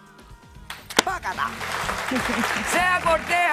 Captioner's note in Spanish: aplausos